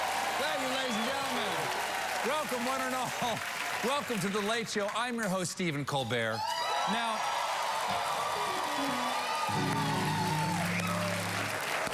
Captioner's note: cheers and applause